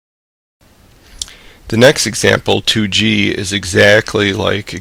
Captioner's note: voiceover